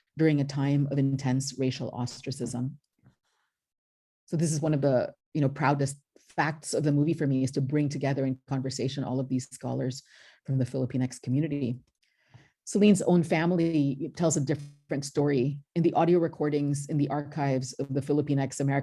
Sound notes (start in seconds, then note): none